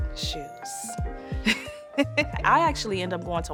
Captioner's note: laughs